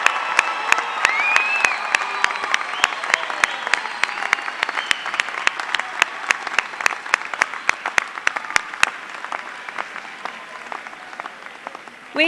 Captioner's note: cheers and applause